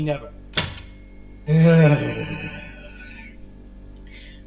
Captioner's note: Ace sighs in annoyance